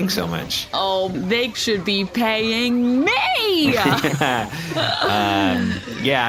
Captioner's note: laughter